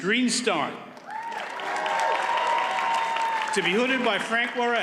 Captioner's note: audience cheers and applauds